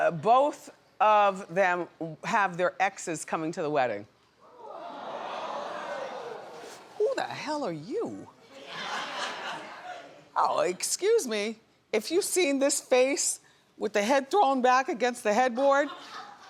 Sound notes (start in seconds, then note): 4.5 audience exclaims